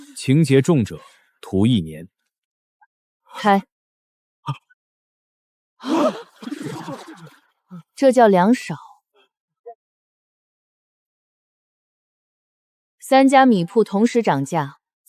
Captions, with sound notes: Severe offenders shall be sentenced to one year of hard labor! Open them! *Gasp*! That's a different matter! All three rice shops raised prices at the same time!